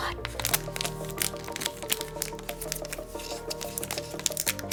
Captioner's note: plastic crackling